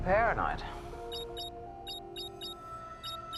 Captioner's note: beeping